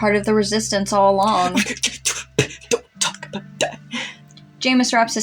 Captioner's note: stuttering